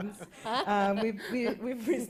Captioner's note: laughter